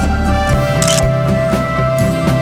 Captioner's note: photo Click